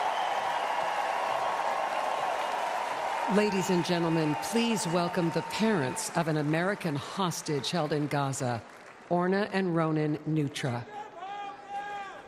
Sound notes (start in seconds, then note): 5.3 applause; 5.7 cheering